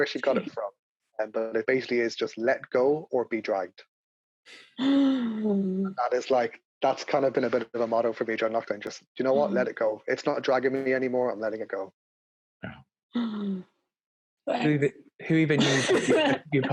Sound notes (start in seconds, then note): 4.2 gasp; 12.9 laughing